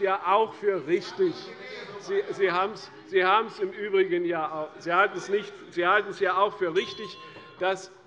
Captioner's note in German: Unruhe - Glockenzeichen der Präsidentin